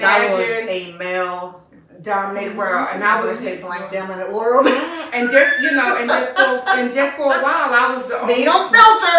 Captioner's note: laughter